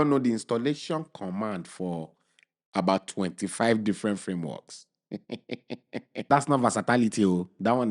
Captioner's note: chuckles